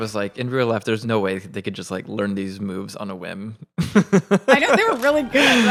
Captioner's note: laughs